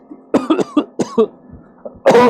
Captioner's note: cough cough